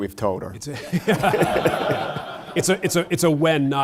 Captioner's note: laughter